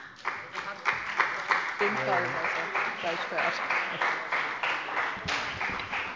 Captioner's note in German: Beifall bei dem BÜNDNIS 90/ DIE GRÜNEN und der CDU